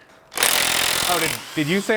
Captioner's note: drill whirring